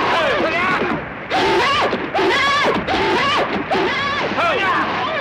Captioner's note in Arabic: يزداد صهيل الحصان